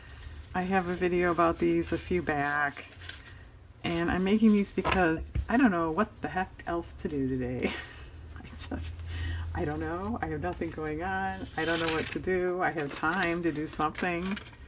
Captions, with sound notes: I have a video about these a few back, and I'm making these because I don't know what the heck else to do today (laughs), I don't know, I have nothing going on, I don't know what to do, I have time to do something